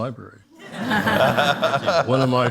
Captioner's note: audience laughs